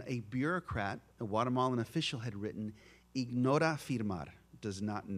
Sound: spanish spoken

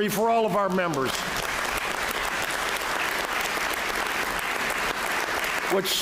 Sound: applause

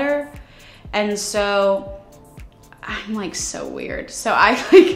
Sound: chuckles

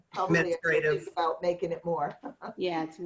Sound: laughter

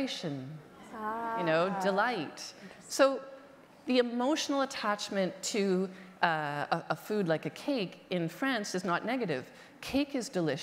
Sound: audience reaction

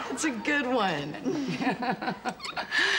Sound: chuckling

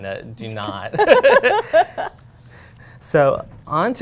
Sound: laughter

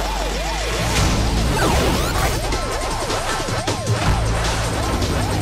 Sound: dramatic music; 8-bit sound effects

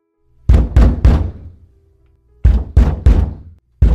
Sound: knocking

